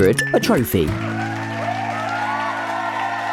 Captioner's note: applause